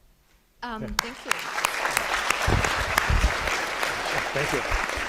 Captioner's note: applause